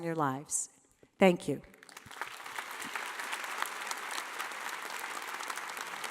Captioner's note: audience applauding